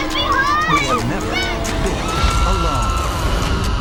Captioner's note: children screaming